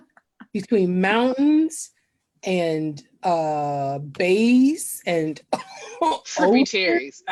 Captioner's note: coughs into a laugh